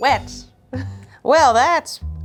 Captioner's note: chuckling